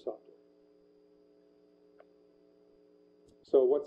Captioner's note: pause